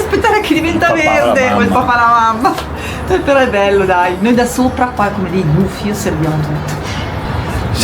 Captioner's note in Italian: risate